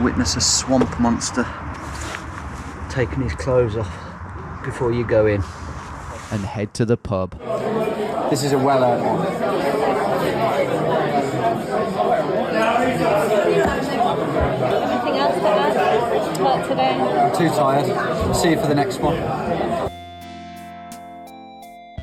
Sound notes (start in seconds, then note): 8.0 patrons chattering